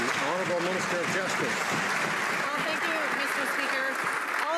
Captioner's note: some Applause